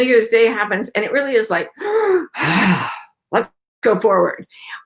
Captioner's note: inhaling and exhaling